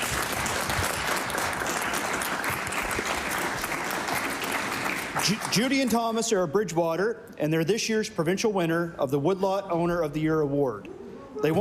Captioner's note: applause